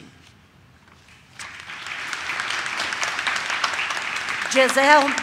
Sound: audience claps

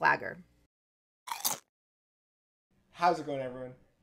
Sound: crunch

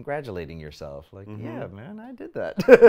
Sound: laughs

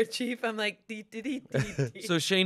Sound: vocalizes

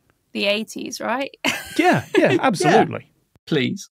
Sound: giggles

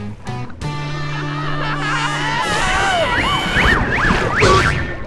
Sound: screaming

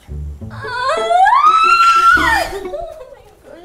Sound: frustrated Scream

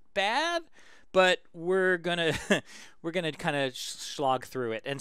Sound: laugh

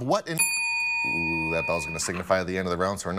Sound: bell dings

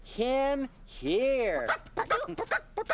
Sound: clucking

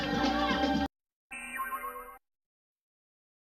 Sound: boing

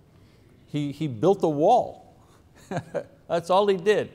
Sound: chuckles

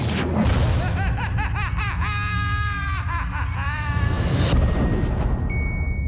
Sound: Joker laughs hysterically

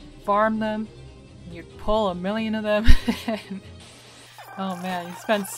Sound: laughing

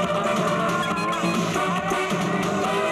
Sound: horn blares

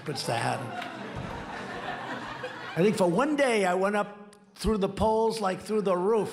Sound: laughter

